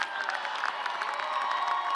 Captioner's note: cheers and applause